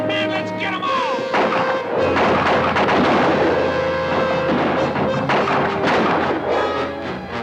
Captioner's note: dramatic orchestral music; guns fire